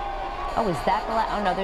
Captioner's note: cheering